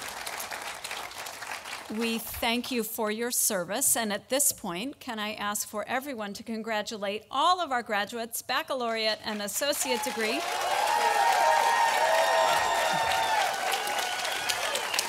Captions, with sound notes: We thank you for your service. And at this point, can I ask for everyone to congratulate all of our graduates, baccalaureate and associate degree? (audience applauding)